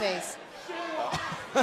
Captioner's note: laughing